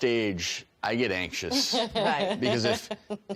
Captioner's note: laughing